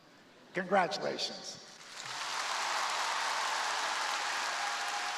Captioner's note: crowd applauding